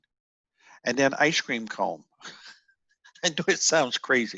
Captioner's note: laughs